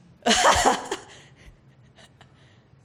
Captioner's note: laughs